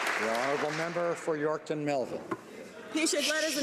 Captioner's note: some Applause